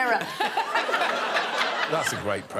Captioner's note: all laughing